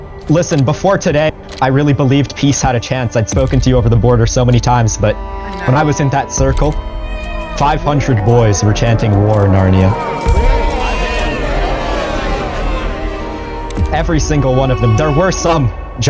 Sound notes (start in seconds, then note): 10.0 boys chanting